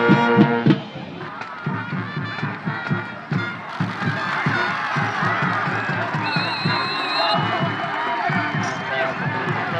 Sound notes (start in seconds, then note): 1.4 crowd cheers